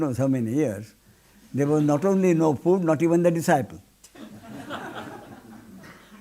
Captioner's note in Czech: smích